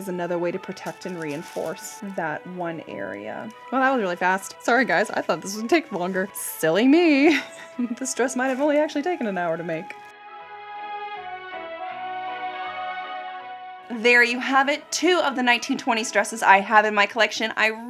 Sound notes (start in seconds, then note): 7.2 chuckles; 10.9 slow jazzy music